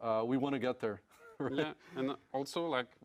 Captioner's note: laugh